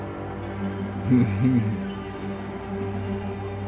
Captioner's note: chuckles